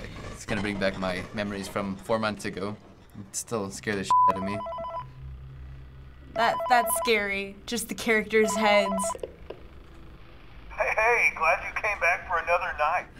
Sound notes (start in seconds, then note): 4.1 in game: phone rings; 6.3 in game: phone rings